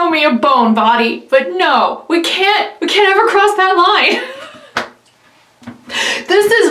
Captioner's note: laughs